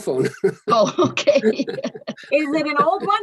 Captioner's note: laughing